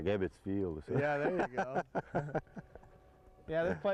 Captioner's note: laghter